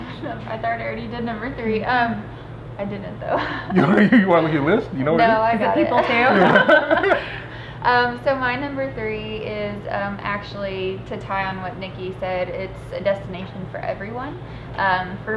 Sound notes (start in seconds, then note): 3.3 laughs; 5.8 everyone laughing